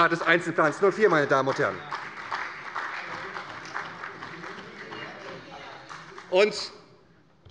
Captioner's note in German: Beifall bei der SPD